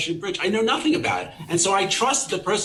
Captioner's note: people chuckling